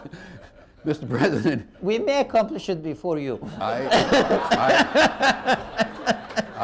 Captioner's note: laughter